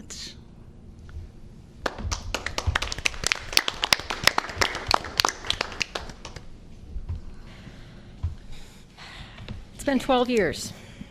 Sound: applause

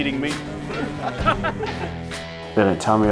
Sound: laughter

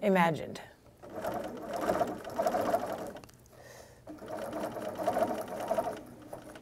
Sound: sound of sewing machine

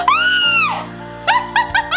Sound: screams; laughs

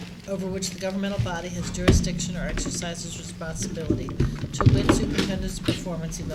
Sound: room shuffling

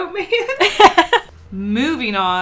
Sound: laughs

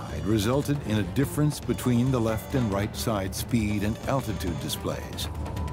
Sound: none

